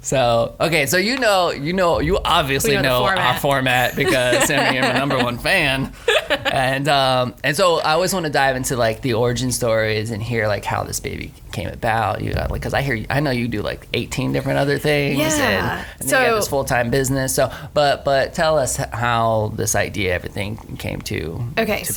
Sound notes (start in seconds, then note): 5.9 laughs